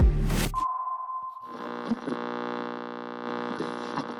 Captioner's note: static hisses